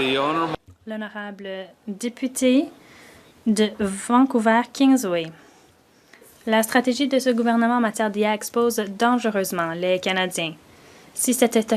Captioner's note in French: voix de l'interprète